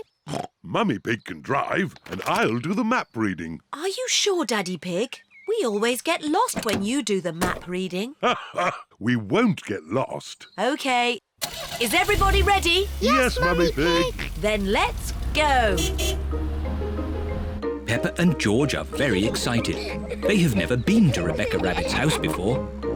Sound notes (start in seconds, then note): 0.2 snorts; 8.2 laughs